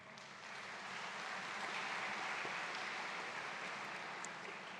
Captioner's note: audience claps